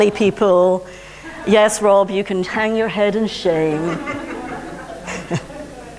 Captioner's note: laughter